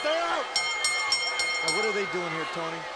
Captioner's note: bell chimes